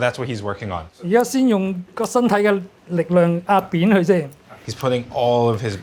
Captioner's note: chef speaking foreign language